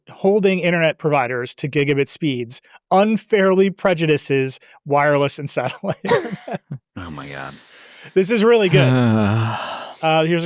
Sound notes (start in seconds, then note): 5.6 chuckles; 8.6 groans